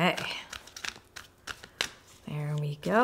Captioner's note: cards Shuffling